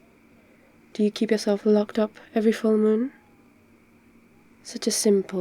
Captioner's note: sarcastic rant